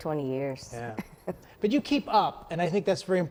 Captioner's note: laughs